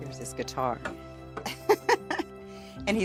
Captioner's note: laughs